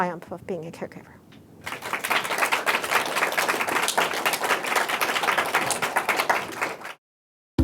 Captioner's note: applause